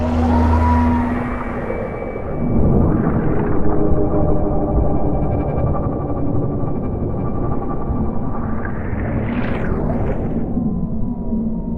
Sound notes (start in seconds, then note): 4.0 ominous sound